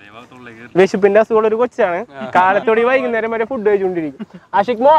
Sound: chuckles

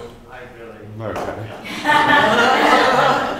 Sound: laughter

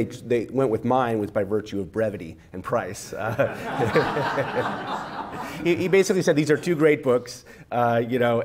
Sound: laughter

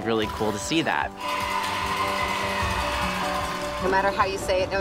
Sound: buzzing, cheering

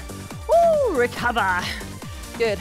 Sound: exclaiming

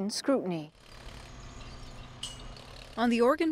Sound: motor revving

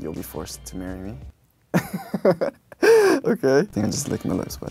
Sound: he laughs

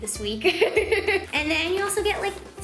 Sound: laughs

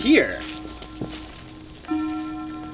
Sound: footsteps

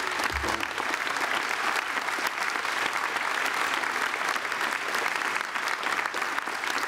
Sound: applause

